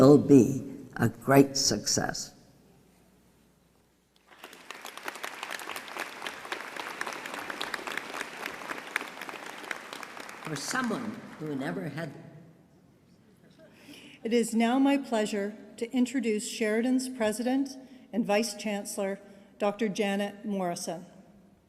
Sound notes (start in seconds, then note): 4.2 applause